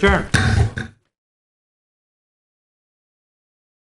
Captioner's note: gavel sounds